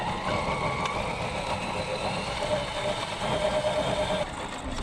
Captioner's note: low engine rumbling